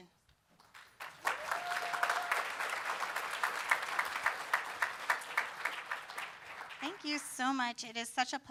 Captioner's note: applause